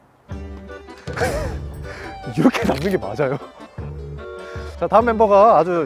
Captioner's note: the sound of putting the chopsticks is especially clear